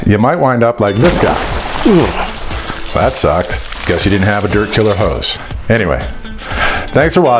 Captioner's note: splash sounds